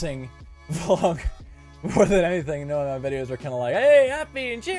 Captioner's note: chuckle